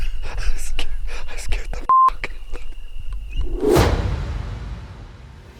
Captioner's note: beep